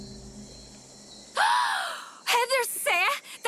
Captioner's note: gasps